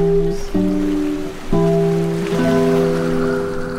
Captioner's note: melancholy music; waves crash